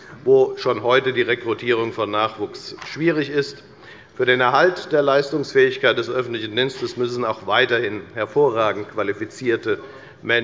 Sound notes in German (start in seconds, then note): none